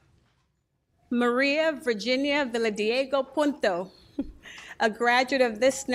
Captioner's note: laughs